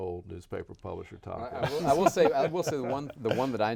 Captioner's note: laughing